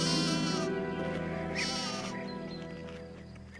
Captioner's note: baaing